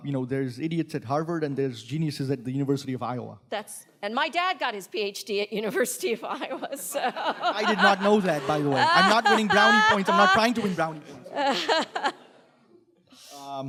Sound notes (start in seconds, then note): 6.5 panelists laughing; 6.7 laughing